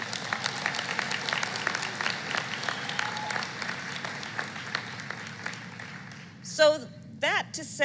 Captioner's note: applause